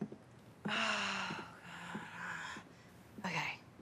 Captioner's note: Robin sighs